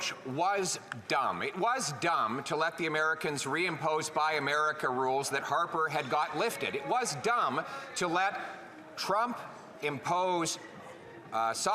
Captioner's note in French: voix de l'interprète